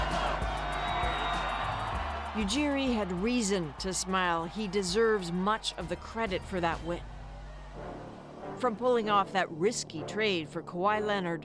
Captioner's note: cheers and Applause